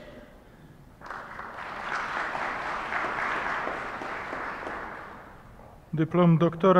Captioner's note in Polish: oklaski